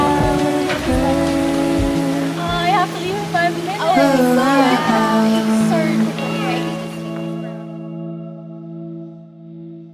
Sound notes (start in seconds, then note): 0.6 muffled chattering